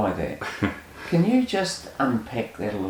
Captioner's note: laughs